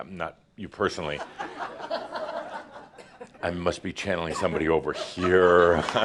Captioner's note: laughter; Adamus chuckles